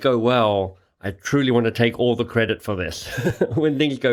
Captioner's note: laughing